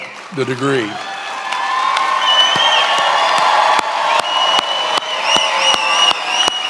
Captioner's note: attendees applauding and cheering